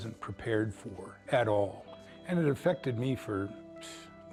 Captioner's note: exhales